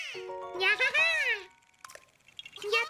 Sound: Penny Mimicking

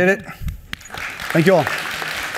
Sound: applause

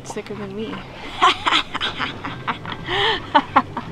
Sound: laughing

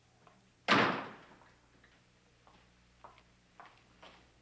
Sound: door slams

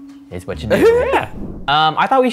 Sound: laughs

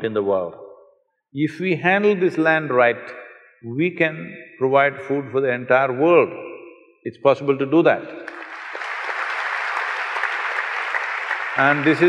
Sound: applause

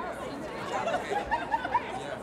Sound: people murmur

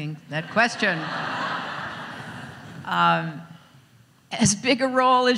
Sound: audience laughs

